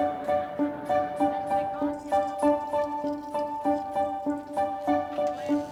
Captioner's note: news reporter faintly speaking